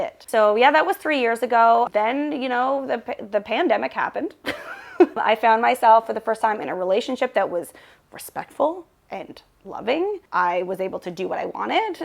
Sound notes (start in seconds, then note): 4.4 chuckles